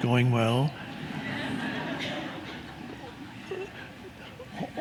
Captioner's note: crowd laughs